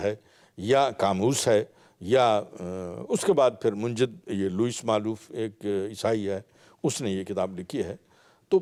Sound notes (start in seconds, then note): 1.7 Arabic